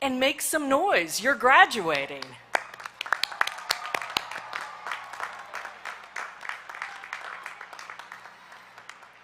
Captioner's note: applause